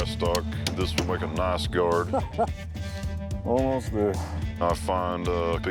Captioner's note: chuckles